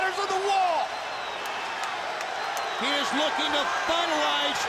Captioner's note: crowd chatter